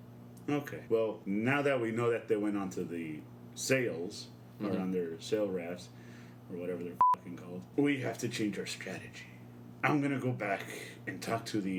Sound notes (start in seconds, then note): none